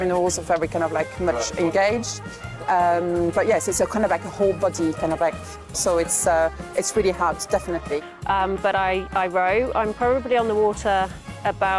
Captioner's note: voiceover